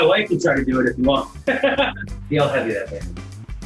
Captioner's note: laughs